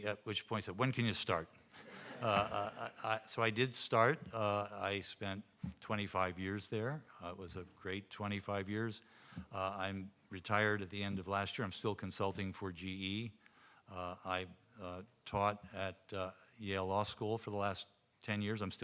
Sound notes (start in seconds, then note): 1.8 audience laughing